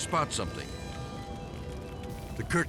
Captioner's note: fire blazing; dramatic music